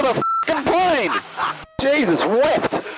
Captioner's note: laughing